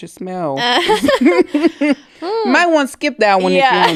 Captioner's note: both laughing